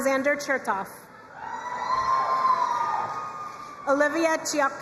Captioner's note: crowd cheering and applauding